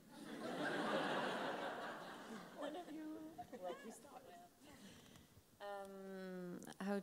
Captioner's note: laughs